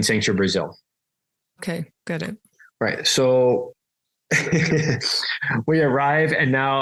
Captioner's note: laughs